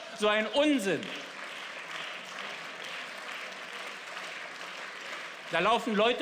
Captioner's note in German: Beifall